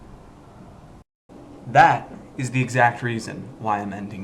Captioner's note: door opening